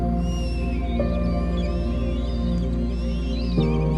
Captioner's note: birds chirping